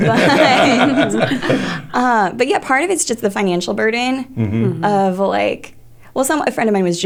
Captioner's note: laughter